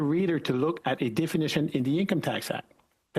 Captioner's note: speaking French